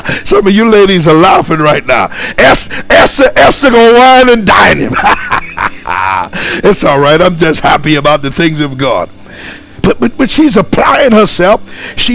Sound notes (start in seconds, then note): 4.8 laughing